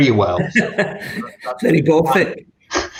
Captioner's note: laughs